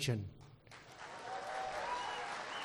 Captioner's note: applause